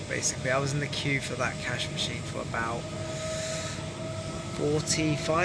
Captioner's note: intake of breath